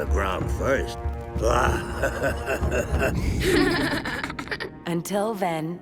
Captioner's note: laughing